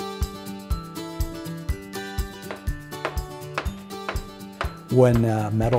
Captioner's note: hammering